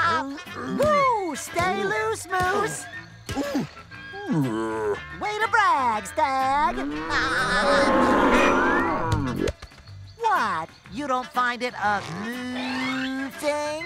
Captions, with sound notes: Whoo! Stay loose, moose! [grunting] Way to brag, Stag. [laughing] What? You don't find it amoo-oosing?